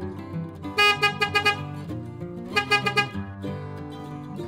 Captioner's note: even more honking